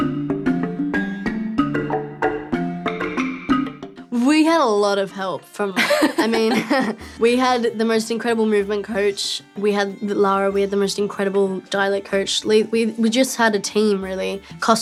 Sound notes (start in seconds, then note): 0.1 lively music; 5.7 laughs